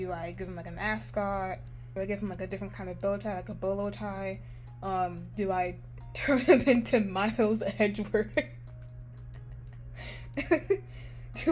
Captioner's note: laughs